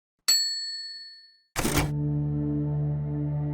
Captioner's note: bell rings